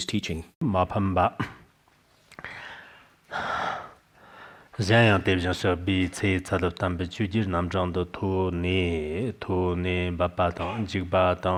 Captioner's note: giving oral transmission in Tibetan